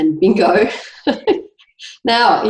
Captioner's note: laughs